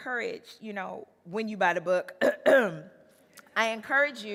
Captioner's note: clears throat